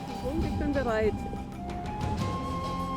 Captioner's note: speaking German